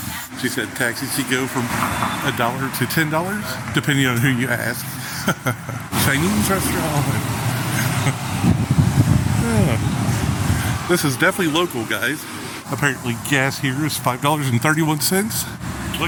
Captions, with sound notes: She said, taxis, you go from a dollar to $10 depending on who you ask. (chuckling) Chinese restaurant. (chuckling) (sighs) This is definitely local guys. Apparently gas here is $5 and 31 cents.